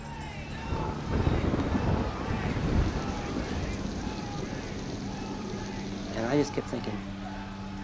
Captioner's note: thunder rumbling, rain pouring